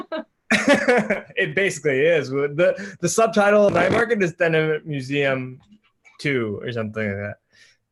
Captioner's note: laughs